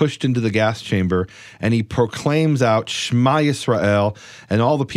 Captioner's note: speaks in foreign language